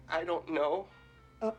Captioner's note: timidly